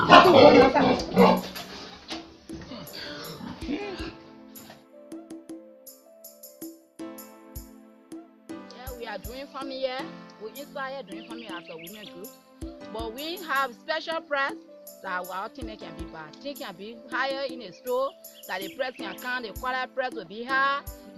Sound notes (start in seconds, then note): 0.0 pig snorting